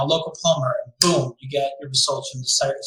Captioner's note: claps hands